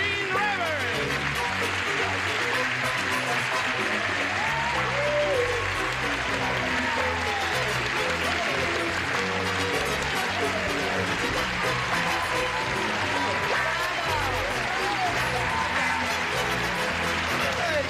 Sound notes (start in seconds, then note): 3.1 cheers and applause